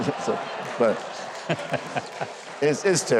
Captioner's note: Huckabee and audience laughs